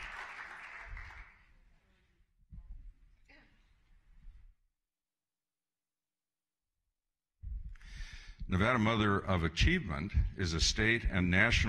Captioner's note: applause